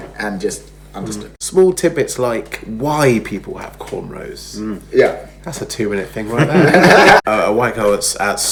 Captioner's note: laughs